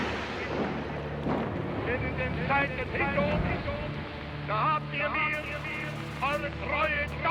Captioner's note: marching; speaking foreign language